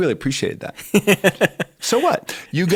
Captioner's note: chuckle